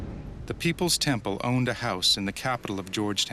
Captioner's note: voiceover